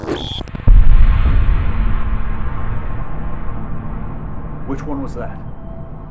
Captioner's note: loud rumble